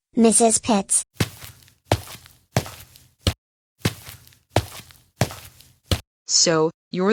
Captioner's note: footsteps